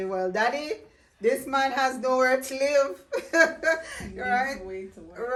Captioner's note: chuckling